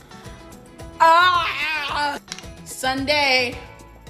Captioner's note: instrumental music; yells